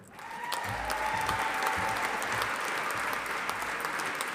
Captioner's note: audience applauding